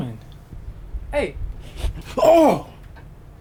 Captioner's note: sniffs